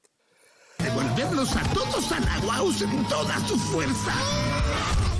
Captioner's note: speaking in Spanish